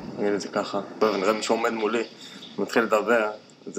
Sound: non-english speech

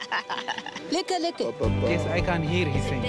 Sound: laughing; speaking foreign language

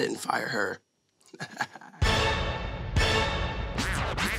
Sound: chuckling

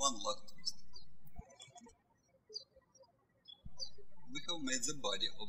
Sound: birds chirping

